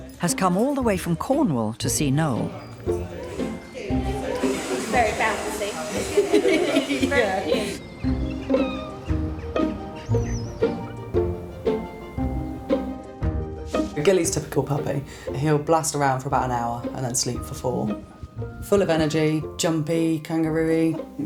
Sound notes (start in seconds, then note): 2.8 gentle upbeat music; 5.8 all laughing; 6.6 gentle upbeat music; 8.5 birds chirping; 10.2 gentle upbeat music